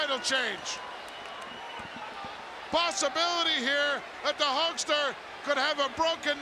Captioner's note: applause